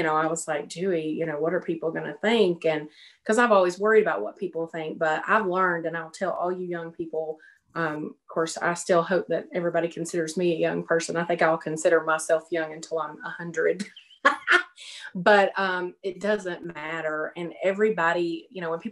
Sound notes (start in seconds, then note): 13.8 laughs